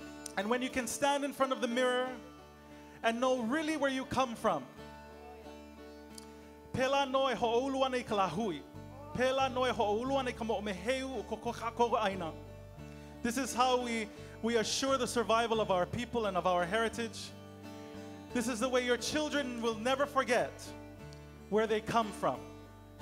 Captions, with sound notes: and, when you can, stand in front of the mirror and know really where you come from. [Speaking Hawaiian] This is how we assure the survival of our people and of our heritage. This is the way your children will never forget where they come come from.